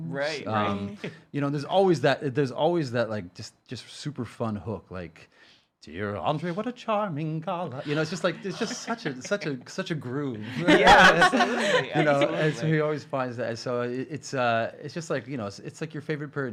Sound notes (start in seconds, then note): 8.0 gasping; 10.4 laughing